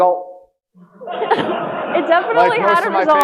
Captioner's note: audience laughing